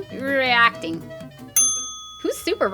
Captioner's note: ding